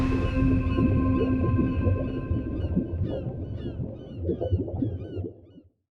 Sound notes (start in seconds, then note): 2.0 seabirds calling